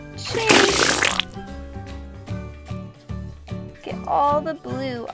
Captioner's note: water gushing